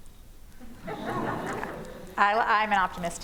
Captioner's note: laughter